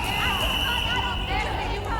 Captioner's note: yelling